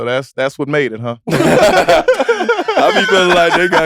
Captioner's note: laugh